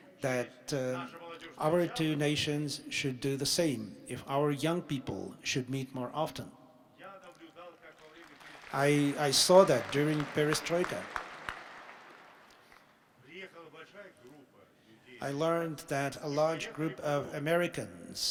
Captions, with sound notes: nations should do the same, if our young people should meet more often. [Applause.] I saw that during perestroika. I learned that a large group of Americans came